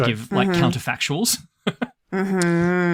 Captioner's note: laughs